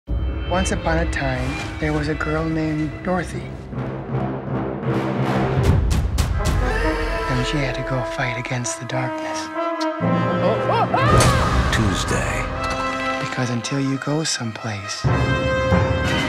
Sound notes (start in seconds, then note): 4.1 ominous music; 10.5 cries out